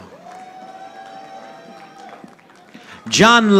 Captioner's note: audience applauding